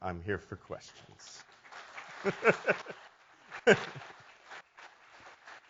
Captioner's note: audience applauds